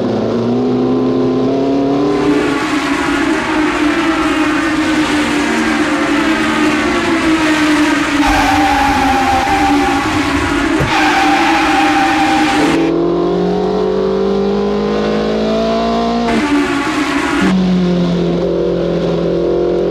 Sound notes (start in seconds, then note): 8.3 tires screeching; 13.1 car engine revving